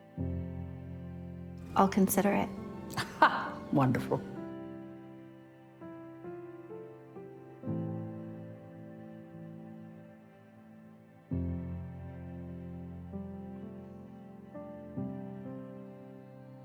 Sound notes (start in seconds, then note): 1.9 voiceover